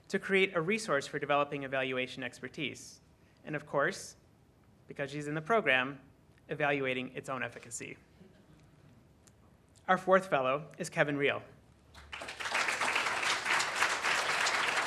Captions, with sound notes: to create a resource for developing evaluation expertise and of course, because she's in the program, evaluating its own efficacy. Our fourth fellow is Kevin Rio. (applause)